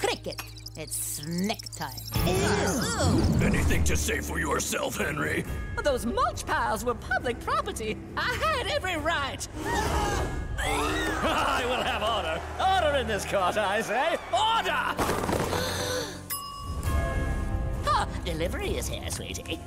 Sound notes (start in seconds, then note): 9.2 gasping, shrieking; 15.4 gasping